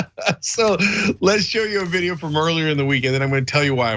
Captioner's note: laugh